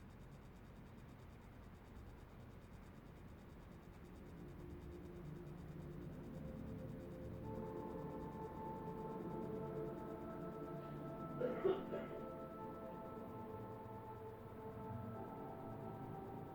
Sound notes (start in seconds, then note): 11.2 person in other room coughing